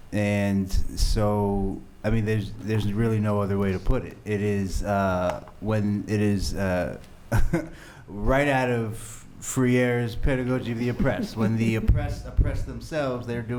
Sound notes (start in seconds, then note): 6.7 chuckles